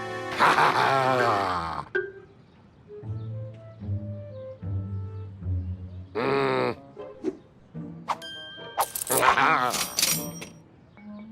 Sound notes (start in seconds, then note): 9.7 cash register dings